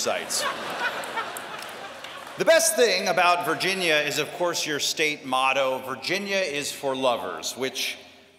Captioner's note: laughter